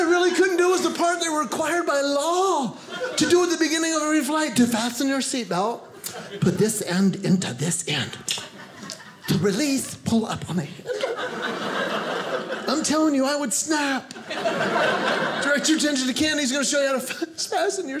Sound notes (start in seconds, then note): 7.6 clicks tongue; 10.8 audience laughing